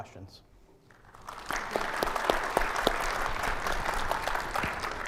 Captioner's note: audience applauds